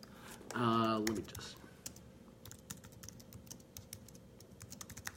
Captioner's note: keys tapping